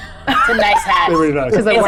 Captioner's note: chuckling